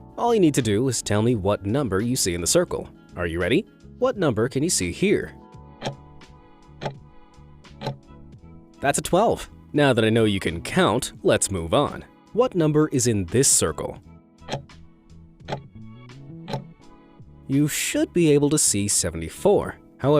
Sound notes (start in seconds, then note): 6.8 timer ticking; 14.6 timer ticking